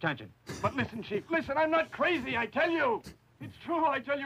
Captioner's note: sighs